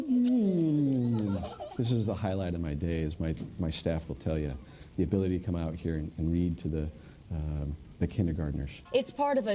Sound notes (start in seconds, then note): 0.0 children laughing